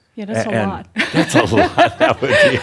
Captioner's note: they chuckle; she chuckles